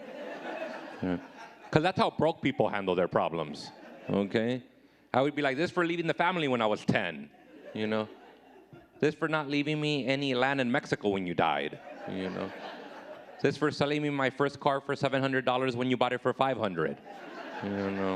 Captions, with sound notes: 'Cause that's how broke people handle their problems. Okay? I would be like, this for leaving the family when I was 10. This for not leaving me any land in Mexico when you died. (audience laughing) This for selling me my first car for $700 when you bought it for 500.